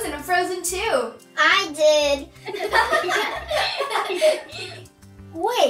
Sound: all laughing

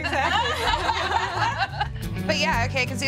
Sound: laughing

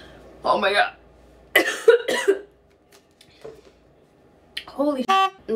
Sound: coughing; honking horn

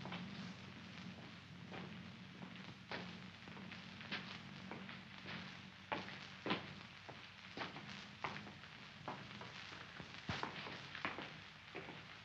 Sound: mens' footsteps

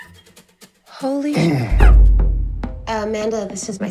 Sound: clears Voice

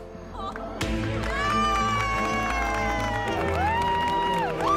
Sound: cheering

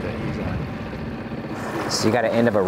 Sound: engine droning

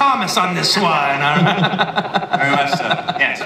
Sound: laughter

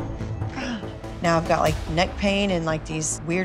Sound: groans

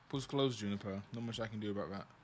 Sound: none

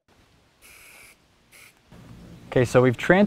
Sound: spray paint blast of air sound, no additional audio

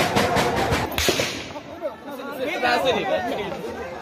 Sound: instinct yells among the crowds

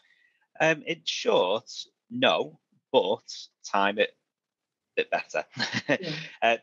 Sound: laughs

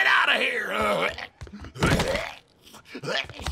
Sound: retching

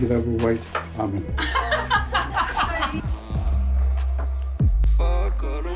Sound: women laughing

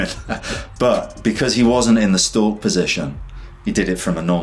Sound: laughs

